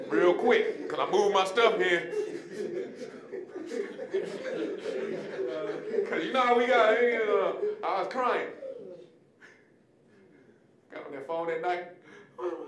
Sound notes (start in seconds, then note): 2.7 audience laughing